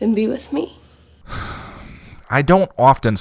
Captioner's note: deep sigh